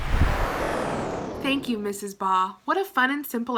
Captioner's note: whooshing